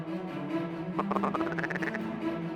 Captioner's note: duck calls